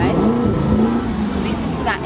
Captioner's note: revving the engine